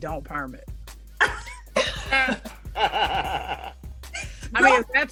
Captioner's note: all laughing